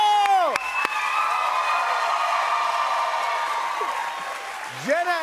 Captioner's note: cheers and applause continue